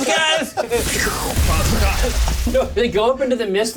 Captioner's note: imitates explosion